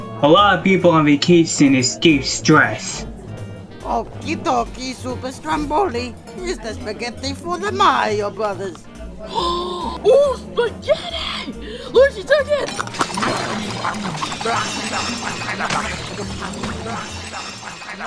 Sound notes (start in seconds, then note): 8.7 gasps; 12.6 wild eating, plates scattering